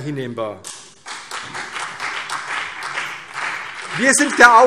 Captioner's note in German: Beifall CDU und BÜNDNIS 90/DIE GRÜNEN